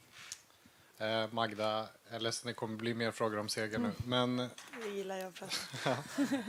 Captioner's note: both her and Magda laugh; laughs